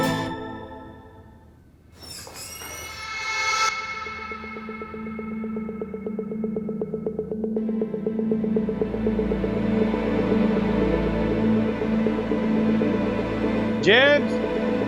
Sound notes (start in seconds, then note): 1.9 door squeaking; 8.2 tense music playing